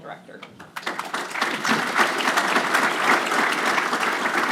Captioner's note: applause